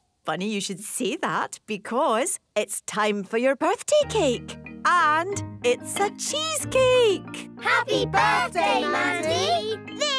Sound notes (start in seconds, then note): none